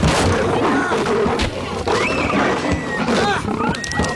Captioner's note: Brian Shouts